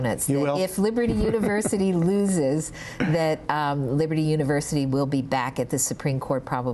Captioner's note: laughter